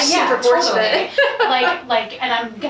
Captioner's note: laughs